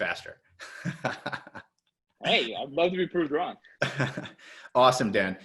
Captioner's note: laughs